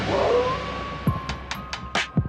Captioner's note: howling